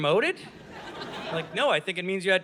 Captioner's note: audience laughing